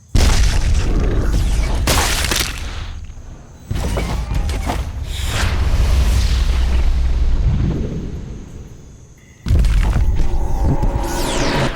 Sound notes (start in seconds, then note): 3.1 growls